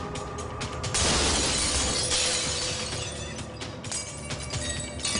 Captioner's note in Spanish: Estrépito de vidrios rotos